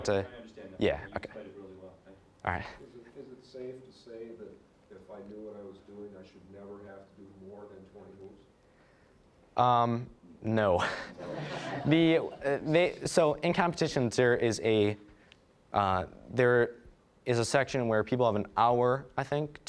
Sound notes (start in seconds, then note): 10.8 all laughing